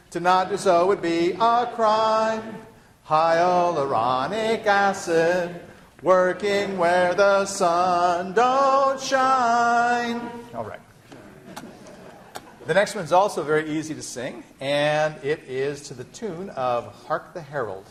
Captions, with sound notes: To not do so would be a crime. Hyaluronic acid, working where the sun don't shine. [laughter] The next one is also very easy to sing, and it is to the tune of "Hark the Herald."